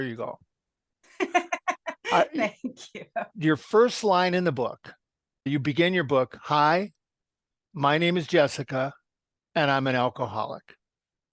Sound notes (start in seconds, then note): 1.2 laugh